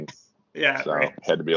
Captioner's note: laughing